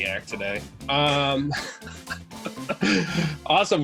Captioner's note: laughing